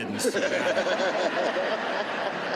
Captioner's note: laughter